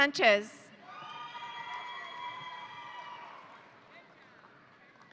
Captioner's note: audience cheering